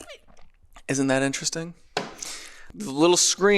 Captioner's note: person slurps